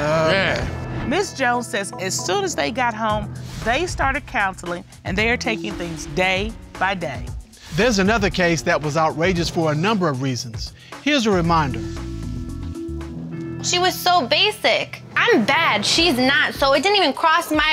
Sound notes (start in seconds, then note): none